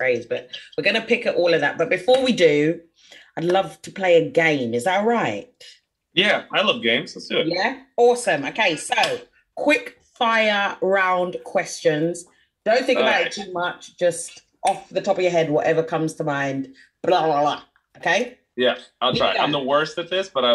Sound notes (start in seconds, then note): 8.9 claps hands; 15.0 snaps fingers